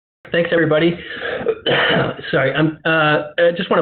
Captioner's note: coughs loudly